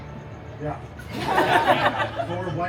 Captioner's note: guests laughing